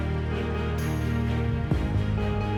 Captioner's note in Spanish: Sonido de motor